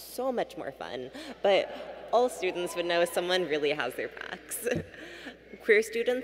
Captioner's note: laughs